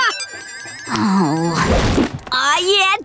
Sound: sighing

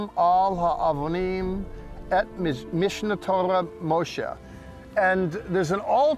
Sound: speaking in Hebrew

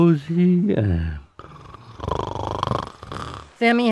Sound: Sam snores

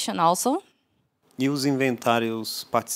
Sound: non-english speech

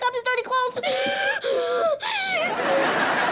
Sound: gasping

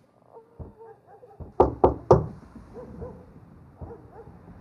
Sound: knocking

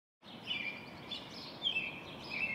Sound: birds chirping

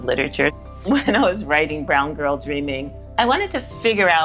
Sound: chuckles

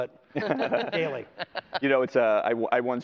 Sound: laughter

